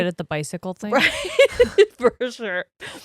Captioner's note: laughs